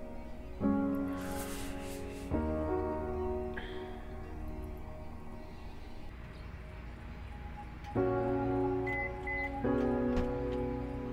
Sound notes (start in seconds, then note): 1.0 breathes heavily; 8.6 car beeps